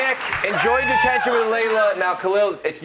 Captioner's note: cheers and applause